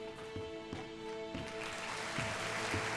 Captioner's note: audience applauding